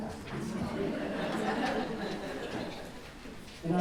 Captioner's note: audience chuckles